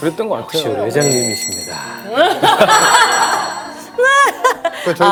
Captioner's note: ding ding ding